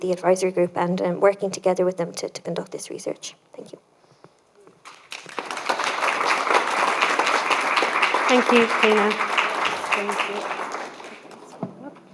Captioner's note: applause